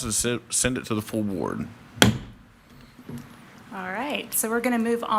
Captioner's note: mallet thudding